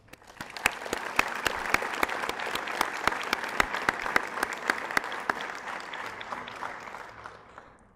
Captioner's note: applause